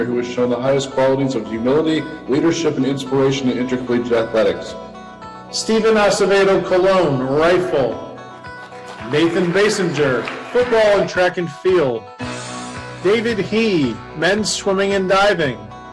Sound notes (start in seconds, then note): 4.7 energetic music; 8.2 audience clapping